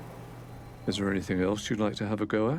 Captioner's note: peaceful ambient music; voiceover